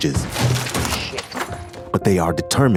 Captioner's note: loud crash